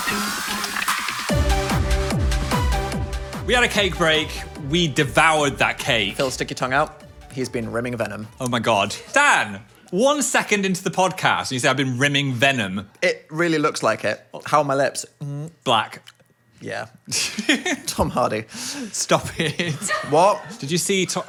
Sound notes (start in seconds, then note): 17.1 laughs